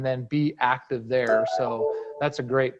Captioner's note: gentle tone sound